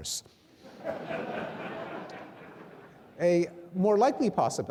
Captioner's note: audience laughing